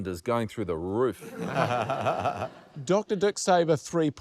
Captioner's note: laughter